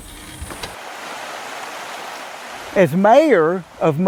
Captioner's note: water rushing